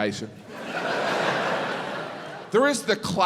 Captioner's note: crowd laughs